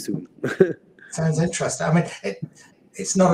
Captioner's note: chuckles